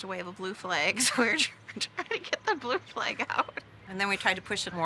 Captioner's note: laughs